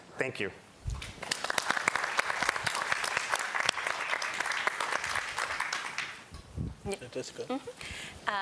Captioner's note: applause